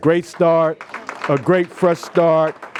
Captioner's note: applause